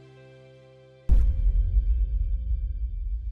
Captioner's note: gentle music; swooping; gentle music